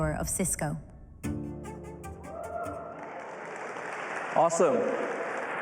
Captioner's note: applause